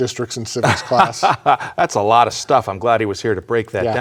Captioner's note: laughs